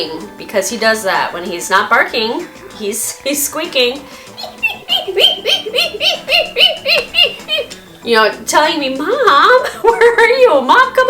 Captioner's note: squeak...squeak...squeak